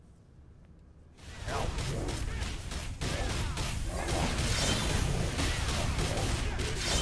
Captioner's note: Video game playing